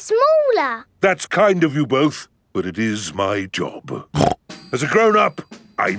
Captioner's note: snorts